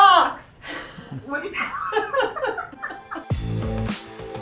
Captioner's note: laughs; orchestral music